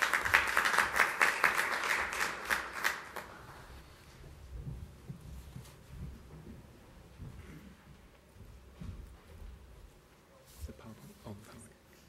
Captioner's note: applause